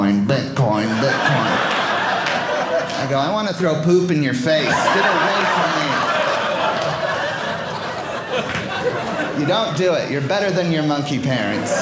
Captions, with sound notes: Bitcoin, Bitcoin, I go, I want to throw poop in your face. Get away from me. (audience laughing) You don't do it. You're better than your monkey parents.